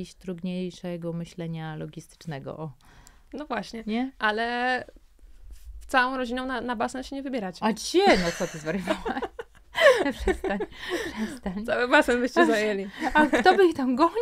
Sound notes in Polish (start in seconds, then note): 8.0 śmiech